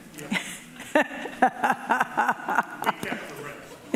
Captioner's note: laughing